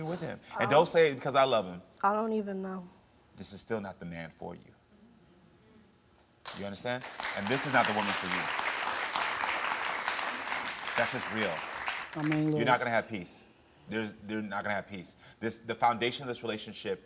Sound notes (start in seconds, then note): 7.0 audience applauds